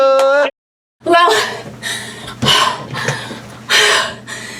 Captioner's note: heavy breathing